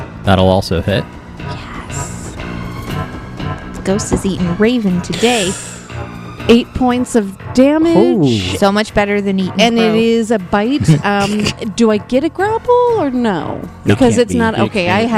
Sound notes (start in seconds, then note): 10.8 laugh